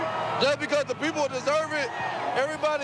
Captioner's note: applause